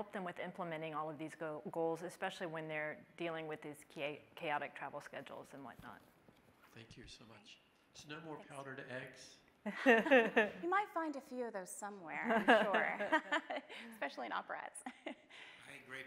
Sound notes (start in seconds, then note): 9.7 chuckling